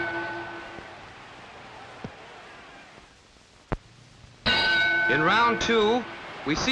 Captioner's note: bell